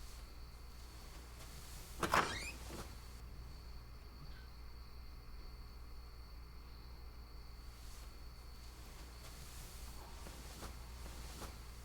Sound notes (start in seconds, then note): 1.9 door opens